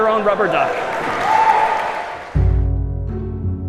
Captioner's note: applause